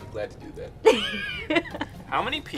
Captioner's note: interviewee laughs